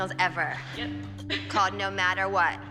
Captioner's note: chuckles